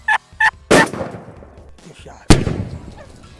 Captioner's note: guns firing